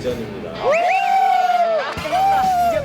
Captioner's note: cheering